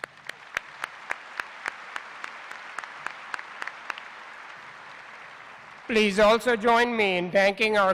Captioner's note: applause